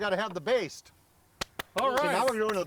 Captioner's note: clapping